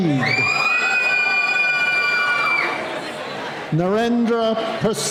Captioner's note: cheering